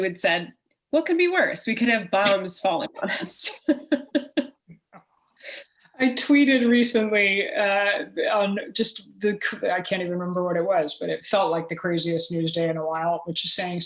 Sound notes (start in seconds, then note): 4.9 chuckle